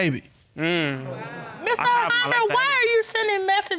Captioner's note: audience exclaims